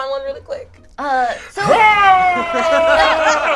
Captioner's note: yells; all laugh